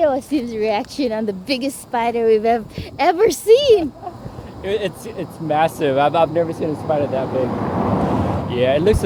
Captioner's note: laughter